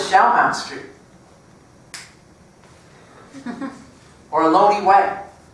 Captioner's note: laugh